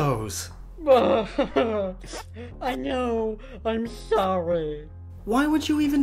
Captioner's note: sniff